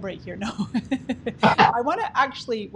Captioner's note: giggles